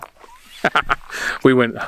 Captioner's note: laughing